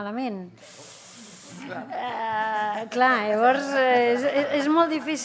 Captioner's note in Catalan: riures